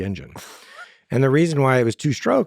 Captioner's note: Lex laughs